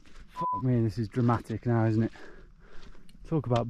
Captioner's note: beep